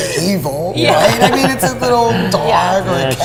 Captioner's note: laughing